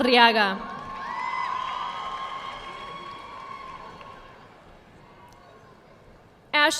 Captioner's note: audience cheering and applauding